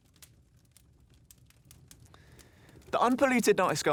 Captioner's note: flames crackling